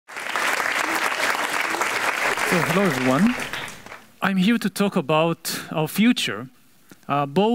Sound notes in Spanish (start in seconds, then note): 2.0 aplauso de la audiencia